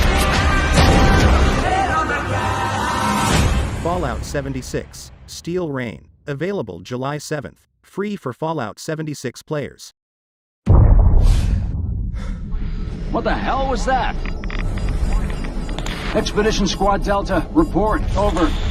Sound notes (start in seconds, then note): 10.6 explosion; 11.6 man panting